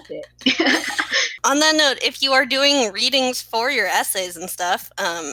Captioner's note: laughing